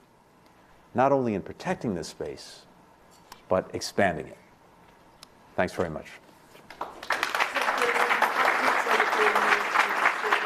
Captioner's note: applause